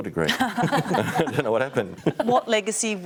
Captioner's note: laughs